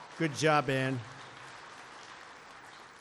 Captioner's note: applause